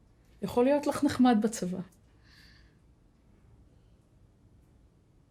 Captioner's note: speaking foreign language